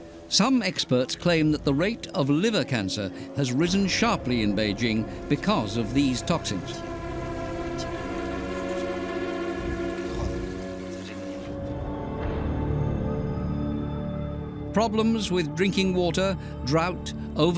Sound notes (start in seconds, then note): 7.1 running water; 12.1 heavy winds